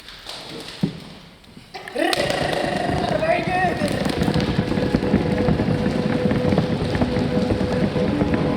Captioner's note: audience drumrolls